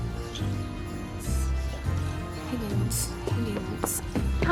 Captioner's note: whispering to self